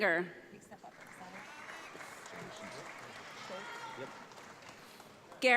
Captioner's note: audience applauds